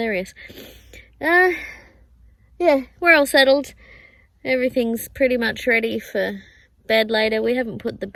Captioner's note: sniffs